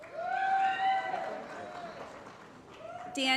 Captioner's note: applause & Cheering